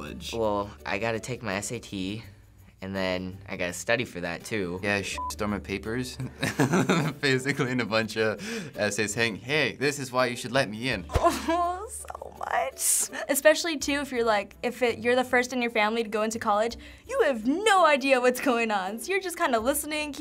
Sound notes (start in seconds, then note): 6.6 laughs; 11.0 moaning